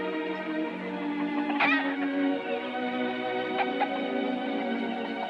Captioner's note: clucking